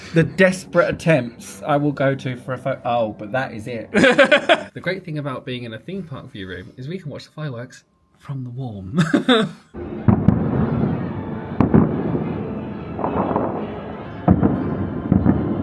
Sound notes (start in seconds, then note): 3.9 laughing; 10.0 fireworks exploding